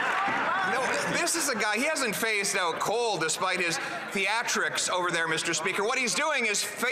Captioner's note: some Applause